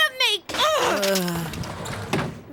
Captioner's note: Yagi growls; door slides shut